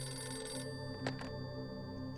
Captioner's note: phone beeping